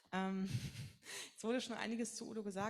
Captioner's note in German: lacht